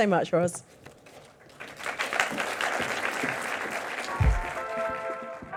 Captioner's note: audience clapping; mellow music